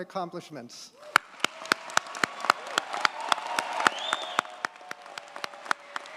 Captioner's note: audience cheers and applauds